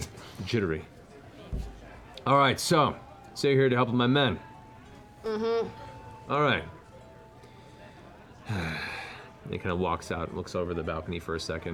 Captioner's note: sighs